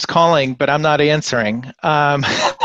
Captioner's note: laughing